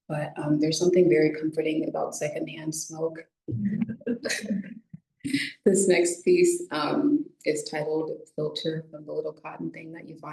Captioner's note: laughs